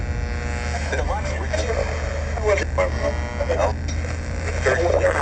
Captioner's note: station tuning/static